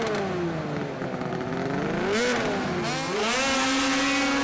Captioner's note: snowmobile engines revving